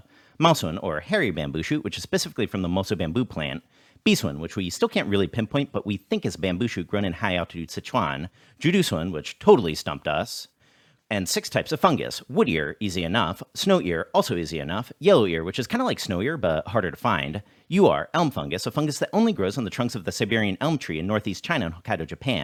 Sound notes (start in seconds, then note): 10.5 breath